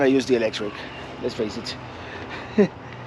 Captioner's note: chuckling